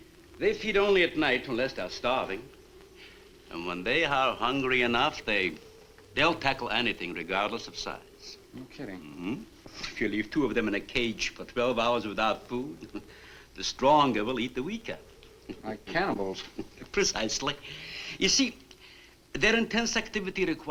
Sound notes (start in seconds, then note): 12.5 chuckles